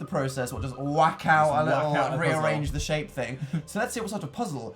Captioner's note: laugh